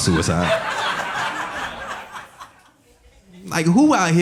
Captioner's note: audience laughing